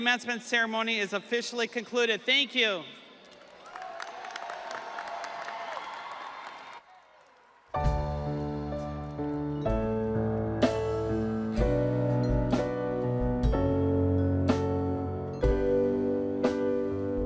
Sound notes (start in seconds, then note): 7.5 audience applauding; 7.5 audience cheering; 11.6 soft instrumental music